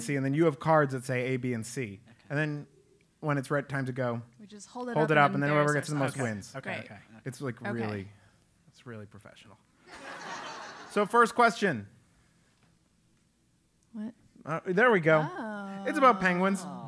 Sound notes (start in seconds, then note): 9.8 laugh